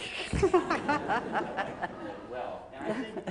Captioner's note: laughter